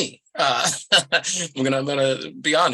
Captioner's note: laughs